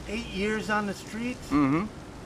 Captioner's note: agreeable grunting